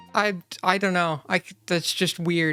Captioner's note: stutter